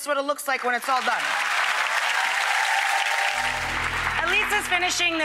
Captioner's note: audience cheering